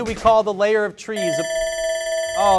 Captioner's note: alarm rings